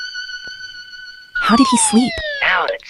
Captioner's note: whispering